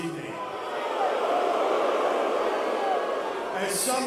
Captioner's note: crowd cheering